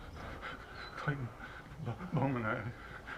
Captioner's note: stuttering